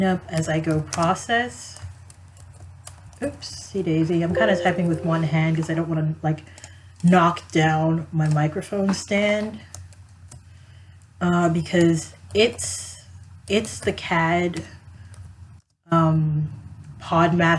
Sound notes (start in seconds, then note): none